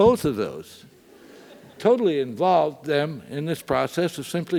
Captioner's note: laugh